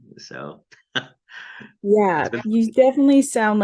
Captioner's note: chuckles